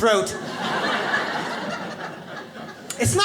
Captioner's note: audience laughs